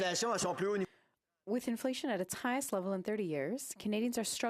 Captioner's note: speaking French